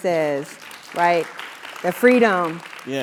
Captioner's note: applause